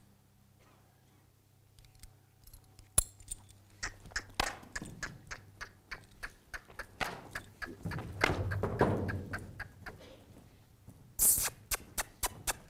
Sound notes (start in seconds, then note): 3.7 making clicking noises; 11.2 making clicking noises